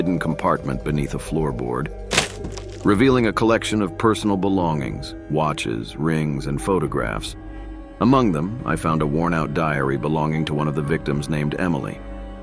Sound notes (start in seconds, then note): 2.1 opening compartment